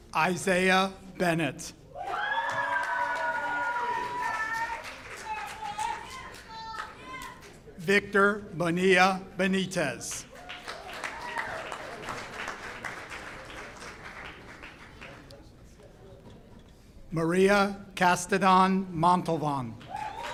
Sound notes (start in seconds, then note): 2.0 audience cheers; 10.1 audience claps